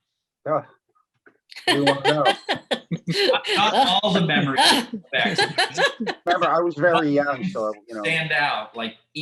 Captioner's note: laughter